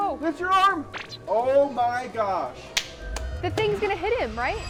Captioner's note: clapping